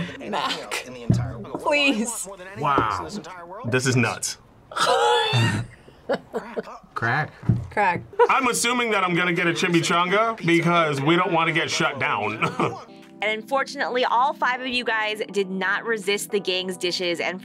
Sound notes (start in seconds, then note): 4.7 laughs; 12.2 chuckles